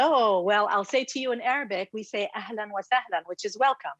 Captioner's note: speaks in Arabic